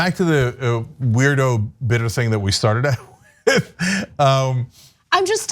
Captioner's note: laugh